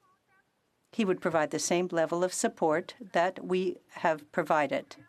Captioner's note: speaking French